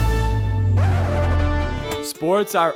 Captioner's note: record scratching